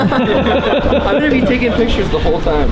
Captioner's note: laughing